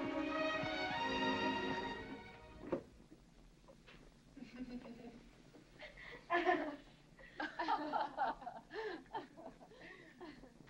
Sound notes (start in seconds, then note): 4.3 women laughing